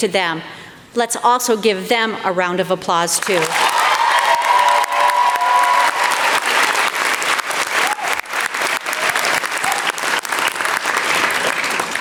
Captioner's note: crowd cheering